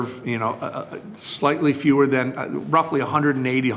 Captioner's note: none